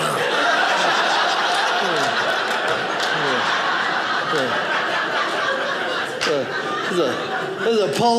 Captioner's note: audience laughing